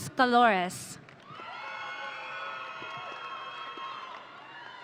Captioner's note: audience cheering